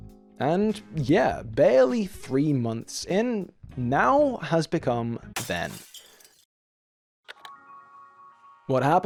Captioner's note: crash SFX